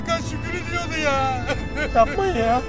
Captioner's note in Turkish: ağlama sesi̇